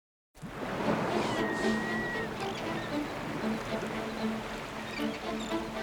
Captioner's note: waves Lapping, Seagulls Vocalizing